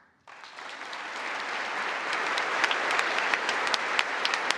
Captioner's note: congress applauding